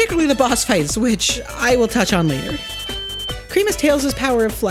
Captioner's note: ear ringing